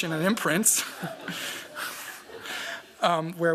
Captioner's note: laughter